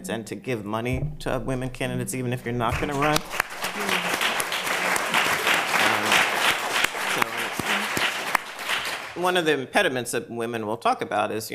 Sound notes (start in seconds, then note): 2.7 applause